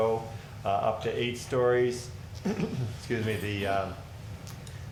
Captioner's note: clears throat